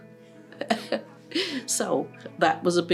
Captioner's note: chuckles